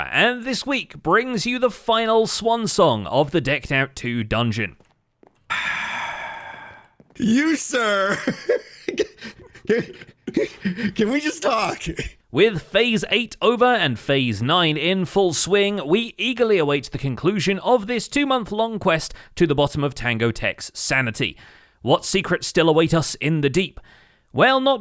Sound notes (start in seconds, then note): 8.0 long sigh; 10.1 laughs